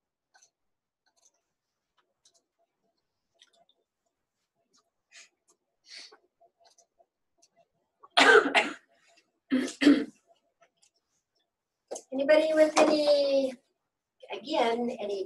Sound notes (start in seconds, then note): 8.1 cough